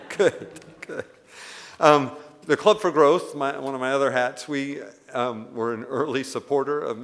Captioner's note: laughs